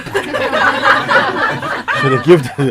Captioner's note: laughter